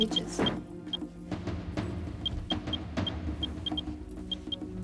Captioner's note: geiger counter beeps